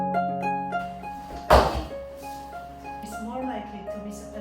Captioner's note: phone falling on the floor